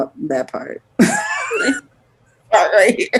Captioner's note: laughs